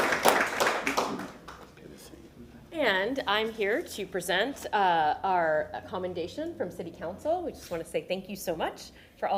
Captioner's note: applause